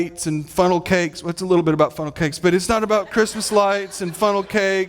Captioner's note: audience laughing